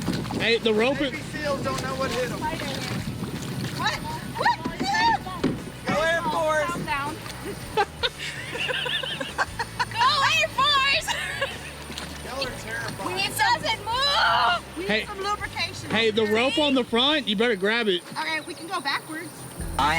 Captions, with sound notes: - Navy SEALs don't know what hit 'em. - There's a spider in here. - What, what? (screams) - Go away forest. (laughing) - Go away forest! - Y'all are terrifying. - It doesn't move! - We need some lubrication over here. - Hey, the rope on the front, you better grab it. - Okay, we can go backwards.